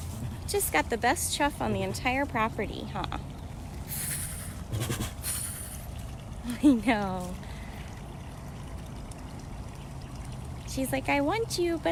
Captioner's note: chuffing